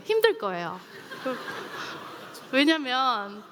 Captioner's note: laughter